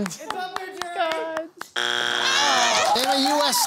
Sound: buzzer

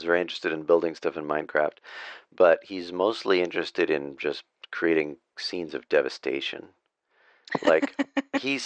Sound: laughter

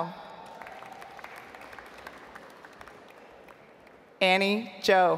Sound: audience applauds

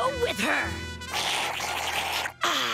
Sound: slurping

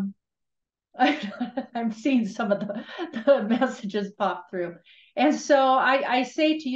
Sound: chuckles

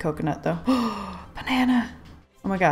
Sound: gasp

